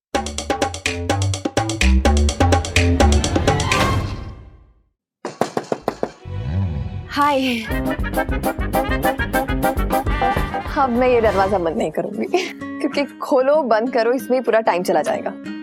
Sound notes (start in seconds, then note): 0.2 comical music playing; 5.2 knocking on door; 8.2 comical music playing